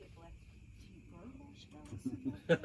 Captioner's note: laughter